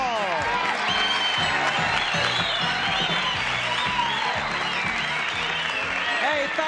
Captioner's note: applause and cheering